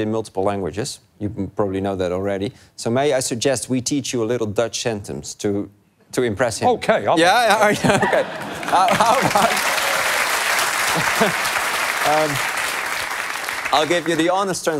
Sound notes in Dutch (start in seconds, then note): 8.4 applaus